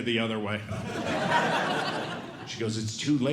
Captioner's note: audience Laughing